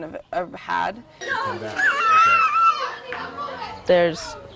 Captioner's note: children screaming